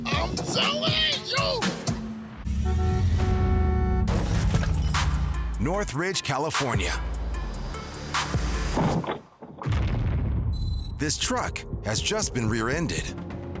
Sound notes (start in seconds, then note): 2.4 honking; 9.4 crash